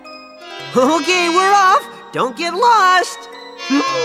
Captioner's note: fly buzzing